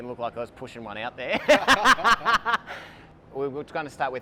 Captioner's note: laughs loudly